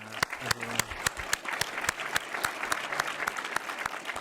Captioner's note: applause